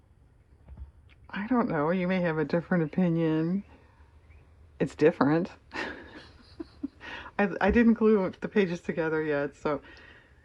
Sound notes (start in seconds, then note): 5.7 laughs